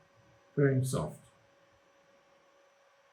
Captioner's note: quiet